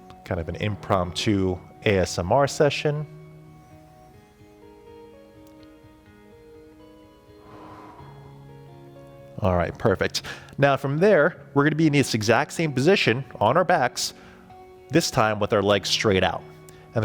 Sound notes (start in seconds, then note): 4.0 calm music; 7.3 exhaling